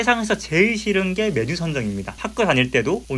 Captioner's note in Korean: 삼겹살 소리 캬~~